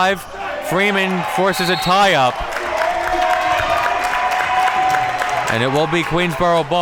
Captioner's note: whistle blows